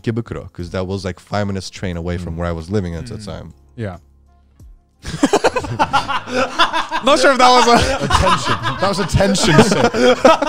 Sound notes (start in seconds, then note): 5.0 all laughing